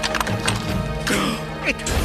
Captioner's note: gasps